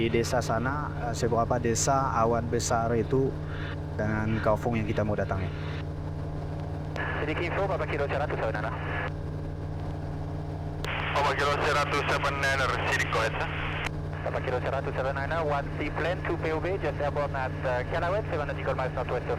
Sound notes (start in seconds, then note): 8.2 talking with ATC